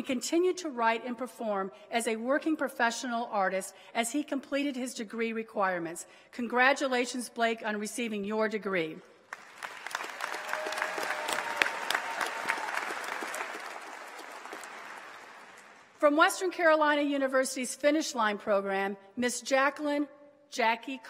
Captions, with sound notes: jazz educators network conference in Las Vegas. He wrote original music for that performance and continued to write and perform as a working professional artist as he completed his degree requirements. Congratulations, Blake on receiving your degree. >>: [Applause.]